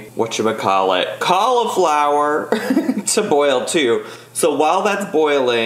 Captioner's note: chuckles